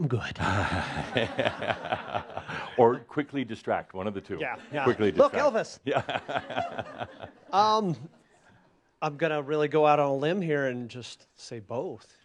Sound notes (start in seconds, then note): 0.4 laughter; 8.7 more chuckles